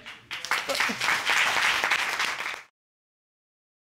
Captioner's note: applause